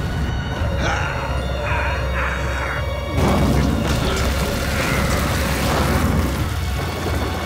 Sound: groaning

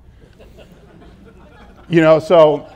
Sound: laughter

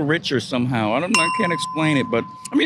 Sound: ding

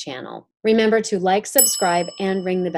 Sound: bell dinging

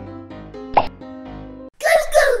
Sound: popping

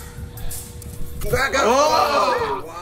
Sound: laugh

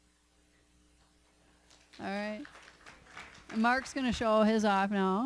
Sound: applause

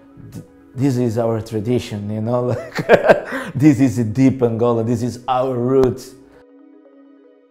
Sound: laugh

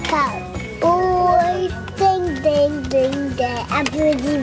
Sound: dinging noise

